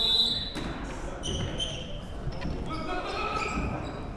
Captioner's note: whistle blows